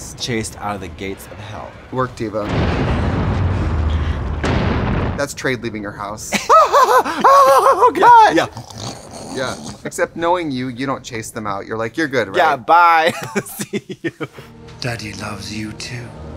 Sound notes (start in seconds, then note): 2.7 thundering; 6.3 laughing; 7.1 distressed moaning; 8.2 growling; 13.0 laughing